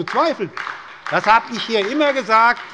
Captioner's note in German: Beifall bei der SPD